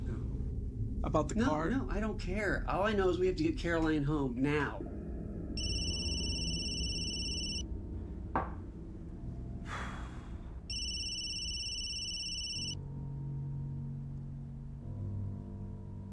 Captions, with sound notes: - No. - About the card? - No, I don't care. All I know is we have to get Caroline home now. (phone ringing)